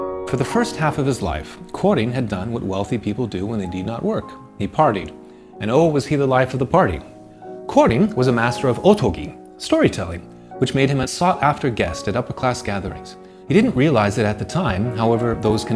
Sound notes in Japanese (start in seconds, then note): 9.0 語り